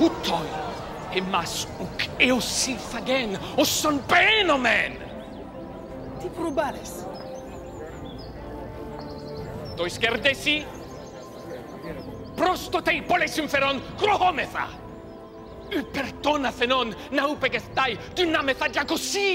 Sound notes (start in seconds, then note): 0.1 Themistocles speaking in foreign language; 6.3 audience member speaking in foreign language; 9.8 Themistocles speaking in foreign language